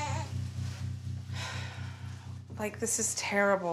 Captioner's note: sighs